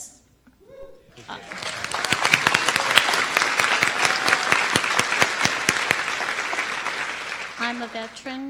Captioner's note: applause